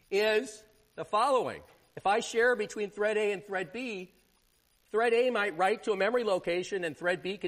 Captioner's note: none